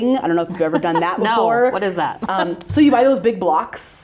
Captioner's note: chuckles